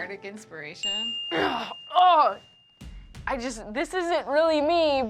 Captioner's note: groans